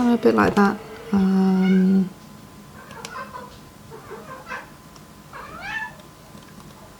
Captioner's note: meow in background